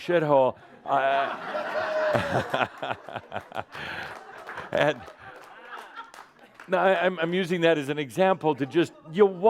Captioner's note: lots of laughter